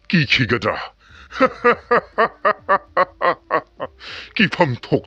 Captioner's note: laughing